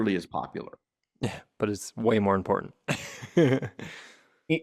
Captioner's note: laughs